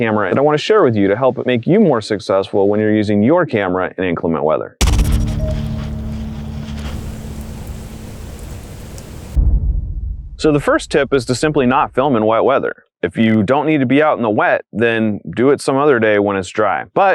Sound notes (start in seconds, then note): 4.9 snowy footsteps; 6.8 light rain; 9.2 thud